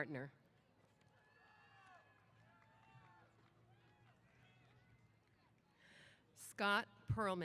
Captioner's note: cheers